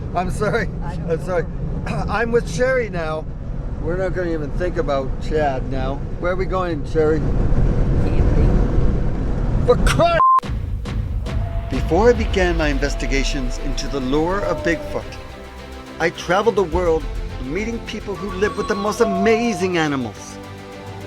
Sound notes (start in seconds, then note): 10.0 beep; 10.5 upbeat music